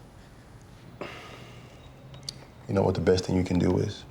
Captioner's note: exhales